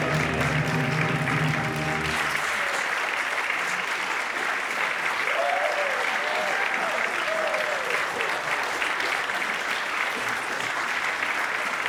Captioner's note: applause